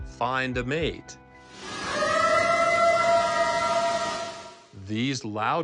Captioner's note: eerie howl